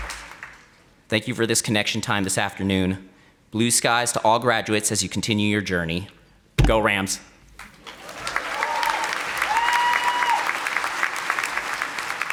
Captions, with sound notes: Thank you for this connection time this afternoon. Blue skies to all graduates as you continue your journey. Go Rams. (audience applauding)